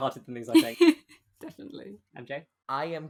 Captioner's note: laughs